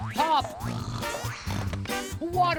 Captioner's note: snore snore